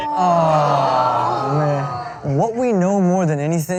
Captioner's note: awing